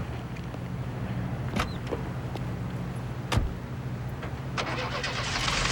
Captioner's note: door opens and closes